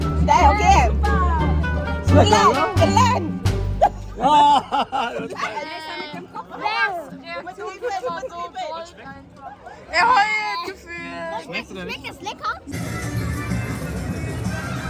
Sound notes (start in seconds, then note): 3.7 laugh; 6.6 speaking German